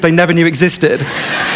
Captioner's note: laughter